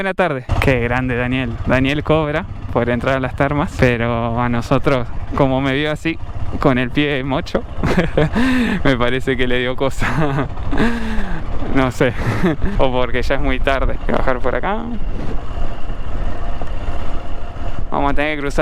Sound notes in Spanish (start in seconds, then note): 7.8 risas